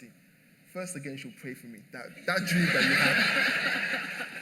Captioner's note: laughter